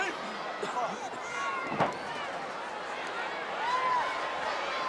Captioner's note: audience chattering